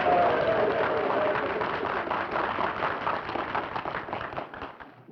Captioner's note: applause